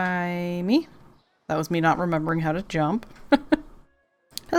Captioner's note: laughs